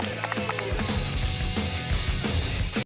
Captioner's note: applause